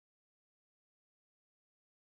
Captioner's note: none